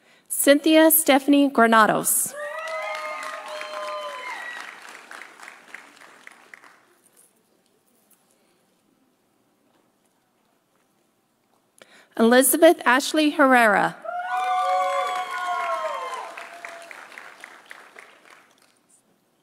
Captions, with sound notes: Cynthia Stephanie Granados. (audience cheering) (audience applauding) Elizabeth Ashley Herrera. (audience cheering) (audience applauding)